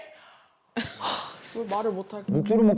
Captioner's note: sighs